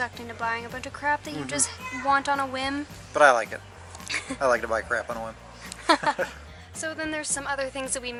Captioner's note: laughs